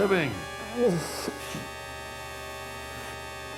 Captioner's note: Ian groaning